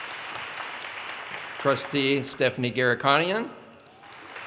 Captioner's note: audience cheers and applause